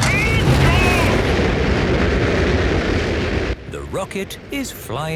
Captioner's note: rockets blasting